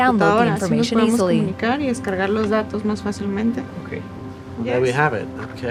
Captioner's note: speaking Spanish